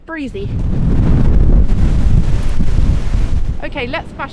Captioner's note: wind